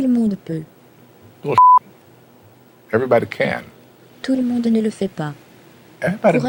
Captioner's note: beeps